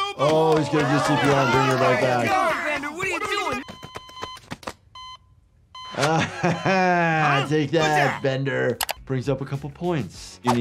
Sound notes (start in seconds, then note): 3.3 heart monitor beeps; 5.9 laughs